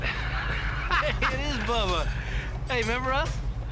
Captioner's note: laughs